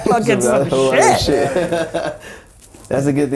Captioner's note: laughing